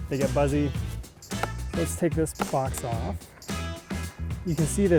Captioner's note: wood cracking